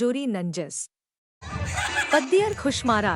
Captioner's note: Laughing